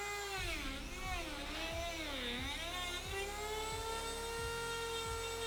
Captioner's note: Dremel 3000 whirring